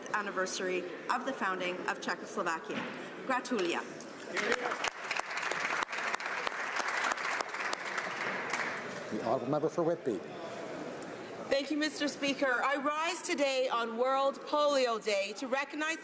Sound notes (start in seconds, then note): 8.3 speaking alternate language; 10.1 some Applause